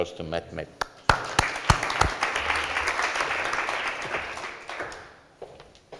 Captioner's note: applause